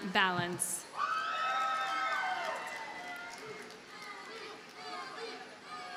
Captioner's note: audience cheers and applauds